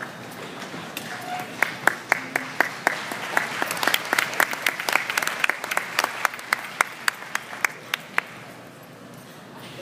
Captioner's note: applause